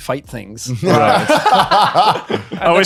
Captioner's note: laughing